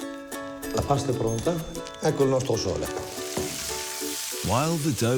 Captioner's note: speaks in foreign language